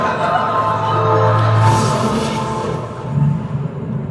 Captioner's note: bbzzztt!!